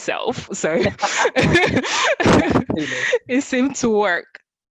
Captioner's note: chuckles